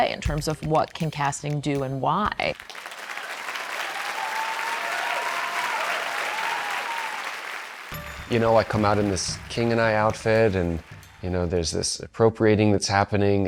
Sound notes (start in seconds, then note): 2.9 cheers and applause